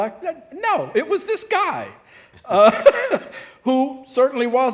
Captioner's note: laughing